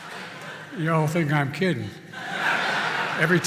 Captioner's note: laughter and applause; laughter